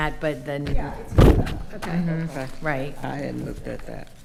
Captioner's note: microphone interference